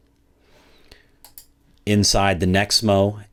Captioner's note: computer mouse clicking